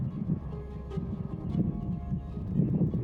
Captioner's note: wind blowing